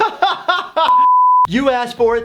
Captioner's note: laughing; screen beeping